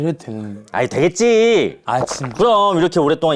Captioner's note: bo-young takes a deep gulp